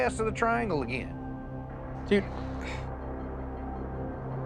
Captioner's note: sighs